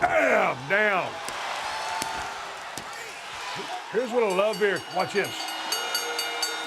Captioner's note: applause